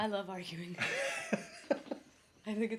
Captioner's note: chuckles